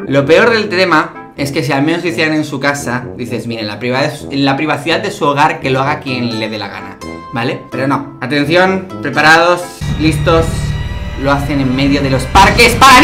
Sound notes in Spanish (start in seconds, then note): 9.6 tono de terror